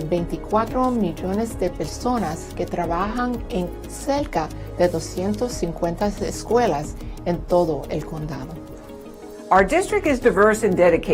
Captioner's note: speaking non-english language